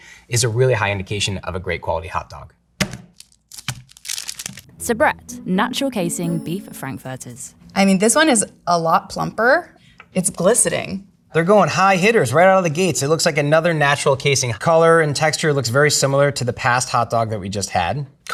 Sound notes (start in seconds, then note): 2.8 package thunks; 3.0 plastic rustling